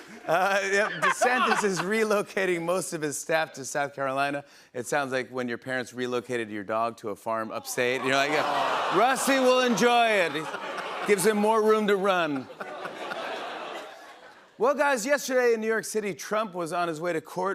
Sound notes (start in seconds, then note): 7.8 audience groans; 12.0 laughter